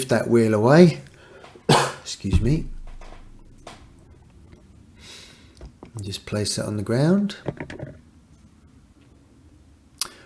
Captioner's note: cough